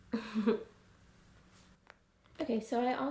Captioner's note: chuckle